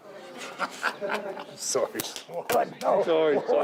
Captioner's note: Vince laughs